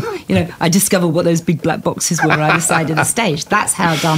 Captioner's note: laughter